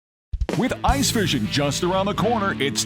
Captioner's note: voiceover